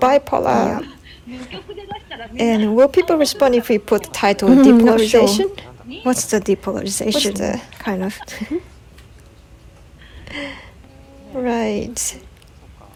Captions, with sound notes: polarization... will people respond if we put title "depolarization"? they'll go "what the hell is depolarization?" kind of... right.(laughs)